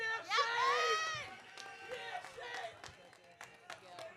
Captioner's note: audience cheering